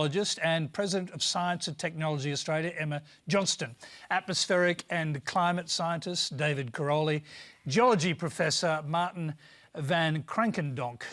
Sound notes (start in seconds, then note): none